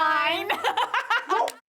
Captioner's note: laughs